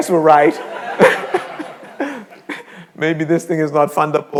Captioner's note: all laughing